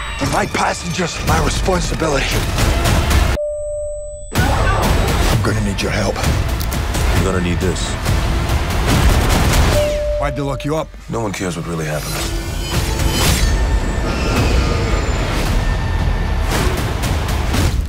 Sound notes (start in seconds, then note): 3.4 ding; 8.4 ding; 11.3 dramatic music continues